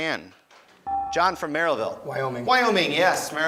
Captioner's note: beeping